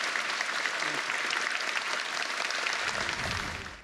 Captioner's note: applause